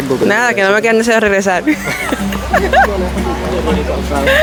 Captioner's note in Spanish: risas